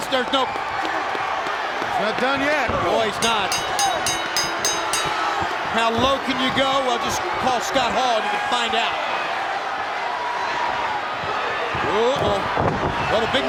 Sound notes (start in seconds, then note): 4.8 bell ringing; 11.0 crowd cheering